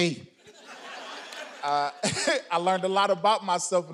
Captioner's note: audience laughing